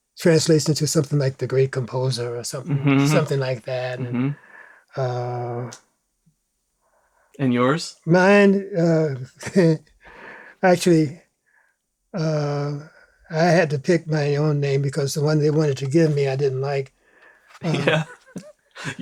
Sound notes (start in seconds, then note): 8.2 laughs; 17.5 laughs